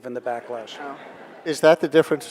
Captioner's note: audience laughing